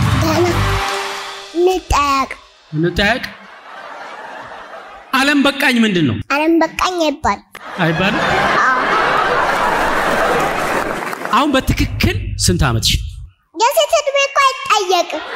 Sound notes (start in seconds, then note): 7.6 laughter